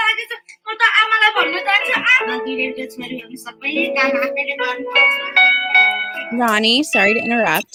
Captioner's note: foreign